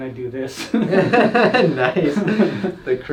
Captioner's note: both laughs